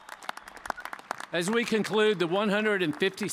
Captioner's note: cheers and applause